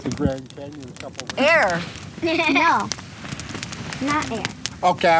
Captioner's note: laughs